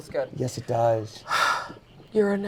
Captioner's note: sighs